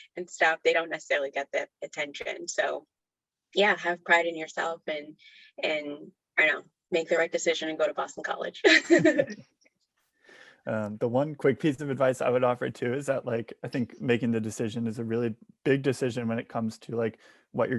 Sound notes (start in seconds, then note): 8.8 all laugh